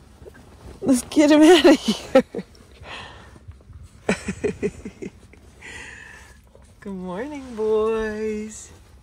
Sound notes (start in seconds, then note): 4.0 laughing